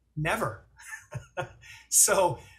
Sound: laughing

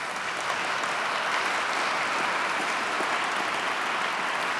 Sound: audience clapping

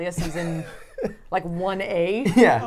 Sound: laughs

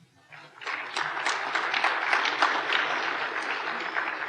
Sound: applause

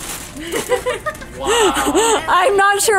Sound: laughs

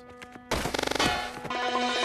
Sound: glitched slam

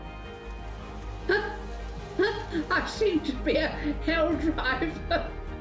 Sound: laughing

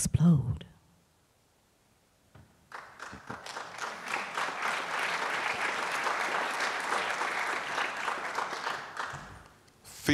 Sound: applause

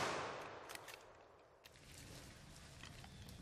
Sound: gunshots

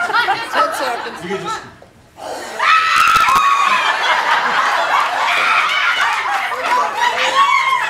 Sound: applause

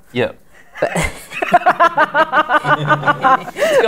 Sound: laughter

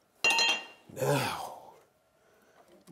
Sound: metal clangs

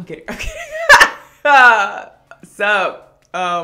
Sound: laughter

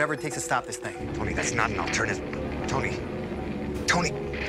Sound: Static

